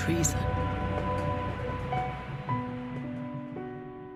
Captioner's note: train whistle